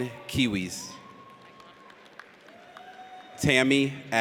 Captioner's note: audience cheers